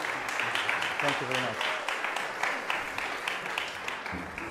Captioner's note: applause